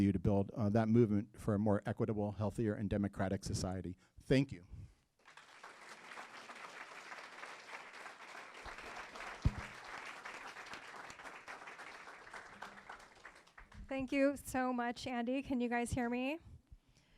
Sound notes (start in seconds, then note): 5.2 applause